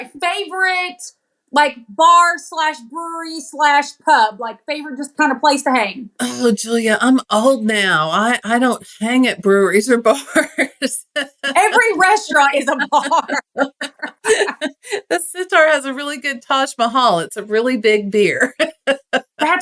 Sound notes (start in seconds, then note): 9.8 laugh; 12.9 laugh